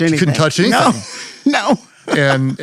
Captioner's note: laughs